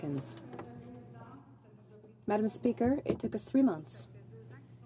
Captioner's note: speaking French